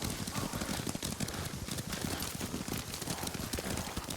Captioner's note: gunfire